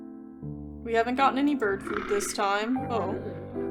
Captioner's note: bird, Guttural Croaking